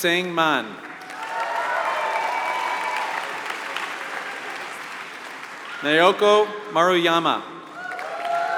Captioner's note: applause